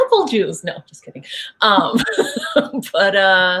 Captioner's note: laughing